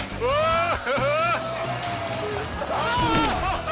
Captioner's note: man exclaiming